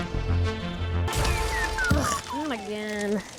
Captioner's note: crash